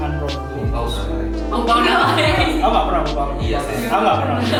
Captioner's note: in Mandarin